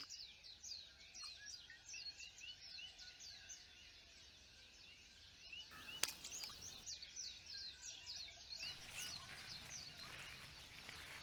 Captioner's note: birds chirping